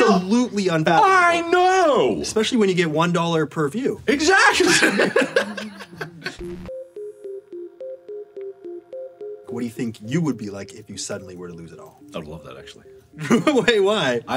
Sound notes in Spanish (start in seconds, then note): 4.5 risas